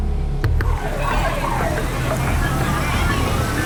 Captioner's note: alarm blaring, indistinct chatter